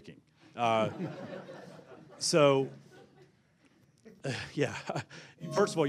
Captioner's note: laughter